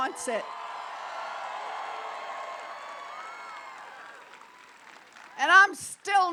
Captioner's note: applause